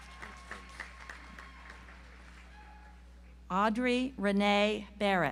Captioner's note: audience applauds